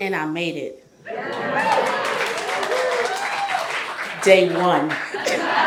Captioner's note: audience cheers; audience laughs